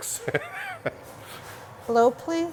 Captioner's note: laughs